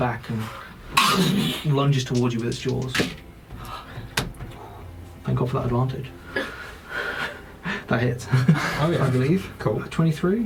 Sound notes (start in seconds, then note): 1.7 biting sound